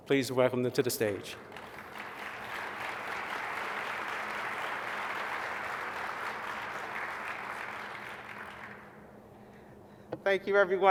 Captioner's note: applause